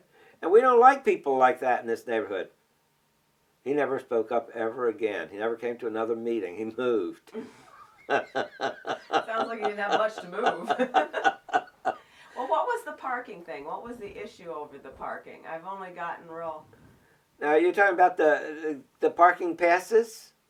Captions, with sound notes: And we don’t like people like that in this neighborhood.” He never spoke up ever again. He never went to another meeting. He moved. [Laughs] Sounds like he didn’t have much to move! Well, what was the parking thing? What was the issue over the parking? I’ve only gotten real… Now are you talking about the parking passes?